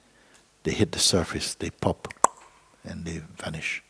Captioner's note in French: pop !